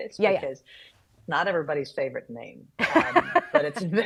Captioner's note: laughing